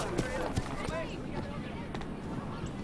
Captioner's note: murmuring; running footsteps